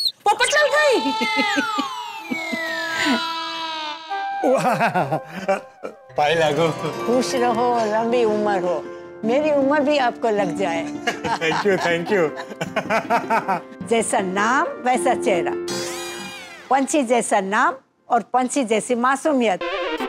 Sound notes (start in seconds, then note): 12.7 laughing